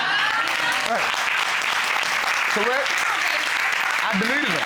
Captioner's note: courtroom applauding